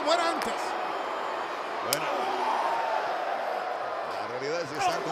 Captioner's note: applause